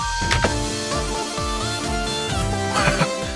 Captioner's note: clicking sound